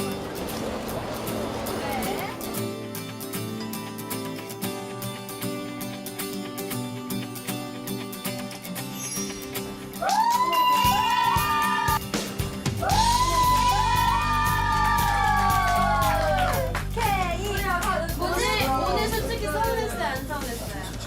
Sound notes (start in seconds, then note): 15.2 seal applause